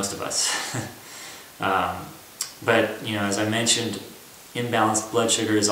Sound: laughter

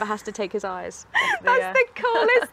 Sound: laughs

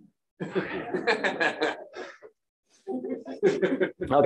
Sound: laughter

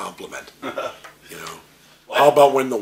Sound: both chuckle

